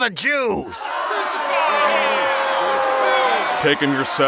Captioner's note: crowd yelling